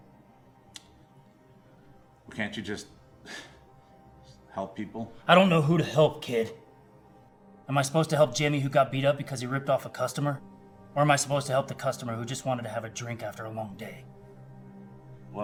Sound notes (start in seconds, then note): 3.7 scoff